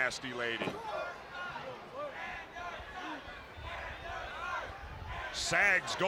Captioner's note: crowd cheering